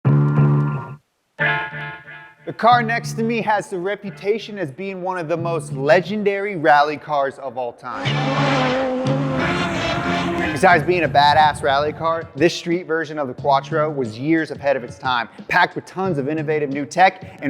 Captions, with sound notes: (dramatic music) - The car next to me has the reputation as being one of the most legendary rally cars of all time. (engines revving) Besides being badass rally car, this street version of the quattro was years ahead of it's time. Packed with tons of innovative new tech